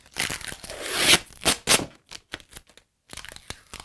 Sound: tape ripping

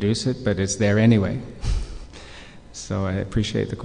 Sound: chuckles

